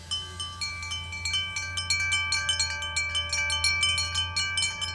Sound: wind chimes chiming

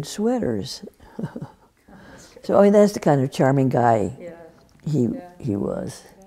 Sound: laughs

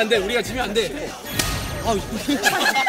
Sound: slap!

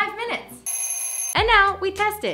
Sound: oven timer buzzer

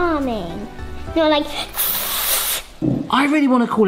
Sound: sizzling sound

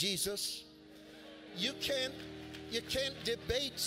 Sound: congregation shouts agreement

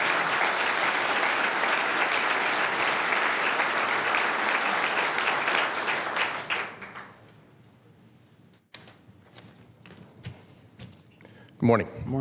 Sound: applause

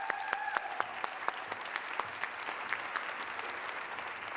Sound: cheers and applause

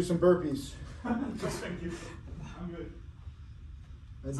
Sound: laughing

